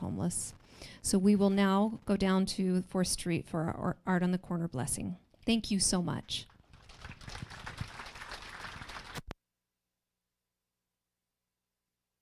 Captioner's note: applause